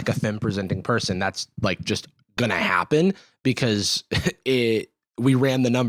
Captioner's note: laughs